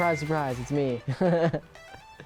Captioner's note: laughing